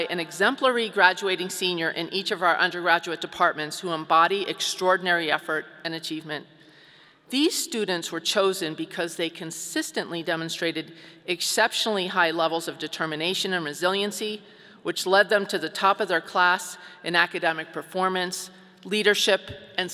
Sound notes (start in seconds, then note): none